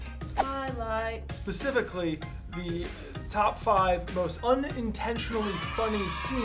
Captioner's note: cheering